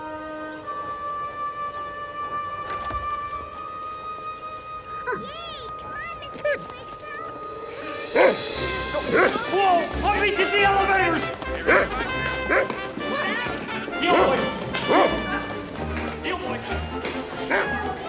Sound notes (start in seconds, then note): 8.1 mr. twixel barking